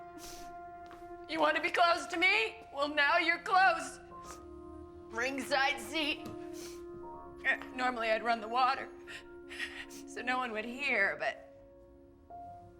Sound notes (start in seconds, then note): none